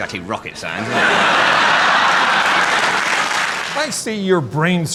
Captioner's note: crowd laughing